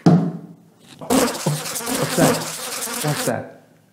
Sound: mosquito buzzing sound

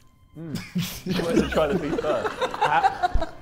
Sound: Sidemen laughing

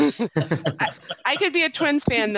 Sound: all laughing

